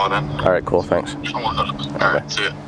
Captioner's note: man murmurs